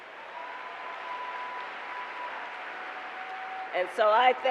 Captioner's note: applause